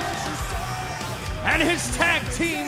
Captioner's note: cheers and applause